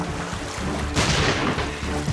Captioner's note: pistol fires